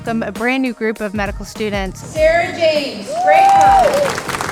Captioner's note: applause